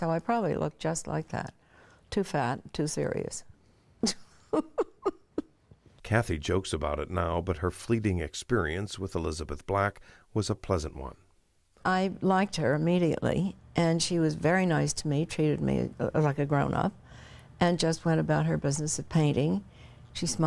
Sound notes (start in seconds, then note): 4.5 laughs